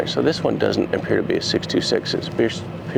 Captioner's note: none